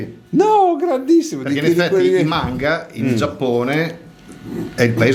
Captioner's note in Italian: schiarire la voce